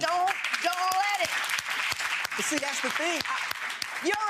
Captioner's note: applause